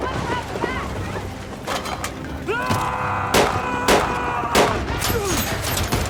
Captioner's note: gunshots; screaming